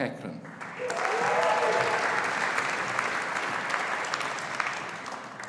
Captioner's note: audience applauding